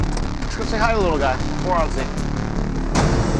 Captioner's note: none